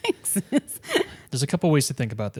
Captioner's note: laughs